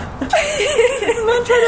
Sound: laughing

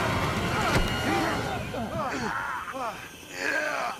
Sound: grunting

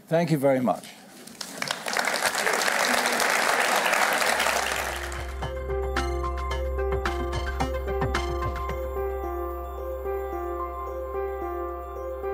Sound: applause

